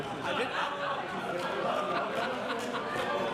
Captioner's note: laughter